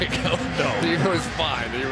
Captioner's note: laughs